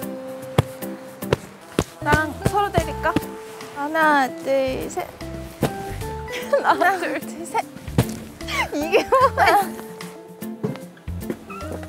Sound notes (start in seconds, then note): 7.9 hit